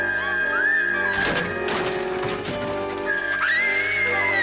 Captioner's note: Heidi screaming; screaming